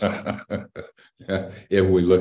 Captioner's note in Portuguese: Risos